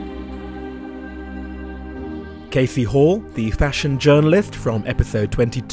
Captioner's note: voiceover